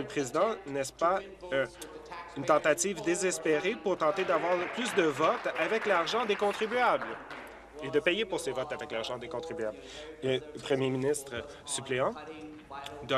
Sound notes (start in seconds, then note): 8.0 applause